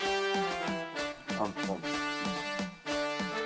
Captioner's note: stammering